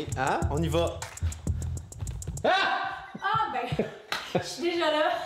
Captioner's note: shout of surprise